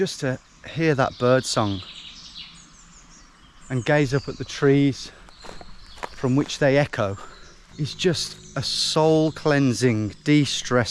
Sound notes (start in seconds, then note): 2.5 birds chirping